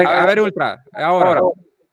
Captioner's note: laughs